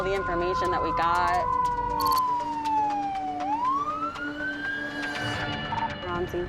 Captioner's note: sirens